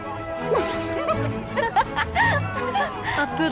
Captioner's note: both laughing